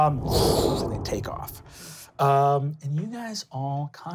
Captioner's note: wind blowing